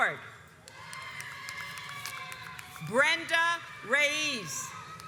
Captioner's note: audience cheers